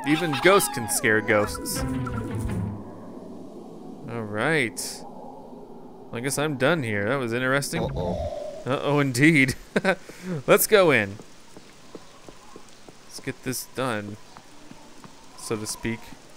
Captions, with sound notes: Even ghosts can scare ghosts. All right. I guess I'm done here. That was interesting. - Uh oh. - [Voiceover] Uh-oh, indeed. (laughter) Let's go in. Let's get this done, so to speak.